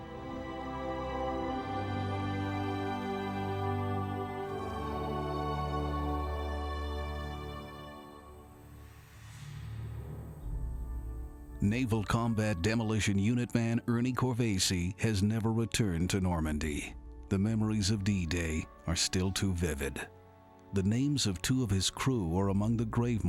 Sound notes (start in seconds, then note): 2.5 emotional music; 5.6 crickets chirping; 5.6 emotional music